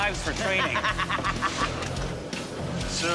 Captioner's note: laughs